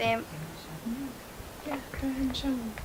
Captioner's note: whispers from off camera